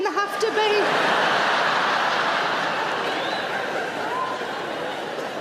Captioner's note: audience laughing loudly